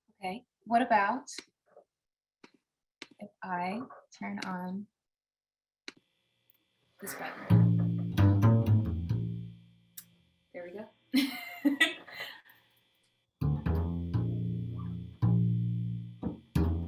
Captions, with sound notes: - Okay, what about if I turn on this way? There we go (laughs). (upbeat bass music)